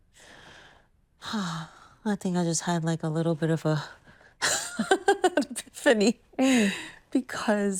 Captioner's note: sighs